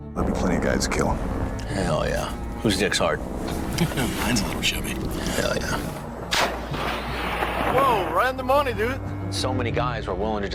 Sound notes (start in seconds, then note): 6.4 air whooshes, backblast roars